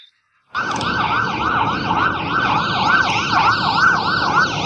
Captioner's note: sirens wailing